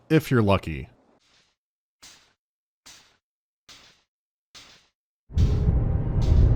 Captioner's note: quiet clanking